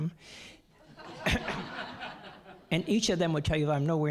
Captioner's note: audience laughing